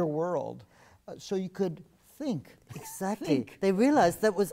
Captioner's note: laugh